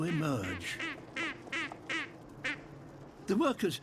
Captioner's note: quack-like chorus